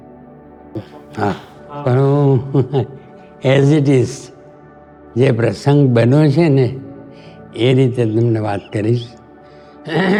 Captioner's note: chuckles